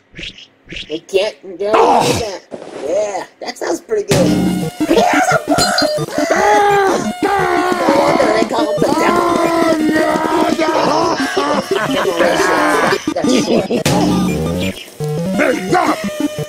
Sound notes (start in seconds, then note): 4.9 While Peppino is screaming; 5.3 He & Peppino scream at the same time